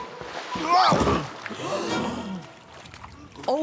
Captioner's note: grunts